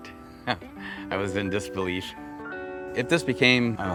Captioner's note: laughs